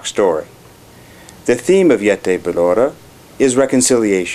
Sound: armenian

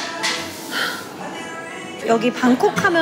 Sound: sighs

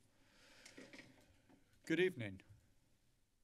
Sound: silence

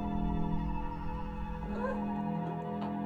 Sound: Birdie laughing

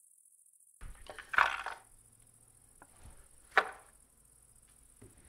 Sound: boards clattering

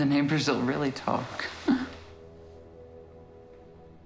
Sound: chuckles

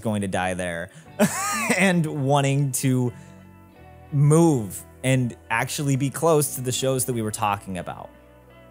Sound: laughs

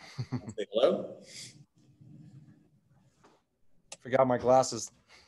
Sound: laughs

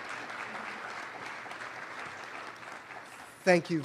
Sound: applause

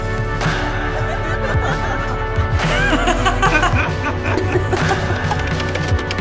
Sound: laughter

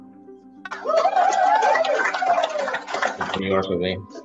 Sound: cheering

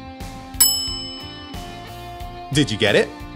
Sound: bell dings

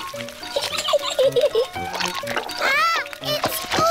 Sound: giggles

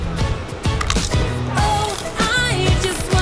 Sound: chip crunches

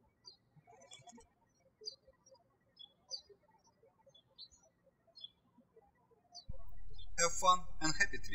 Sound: birds chirping

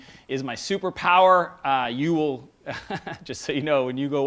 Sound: laughs

